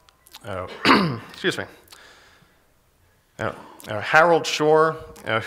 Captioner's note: coughs